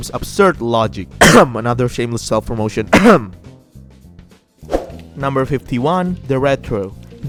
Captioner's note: cough